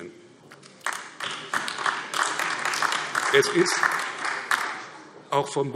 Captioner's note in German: Beifall AfD